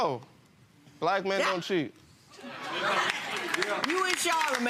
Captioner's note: audience laughing